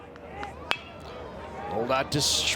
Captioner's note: bat dings